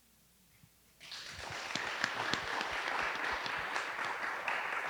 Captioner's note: audience applauding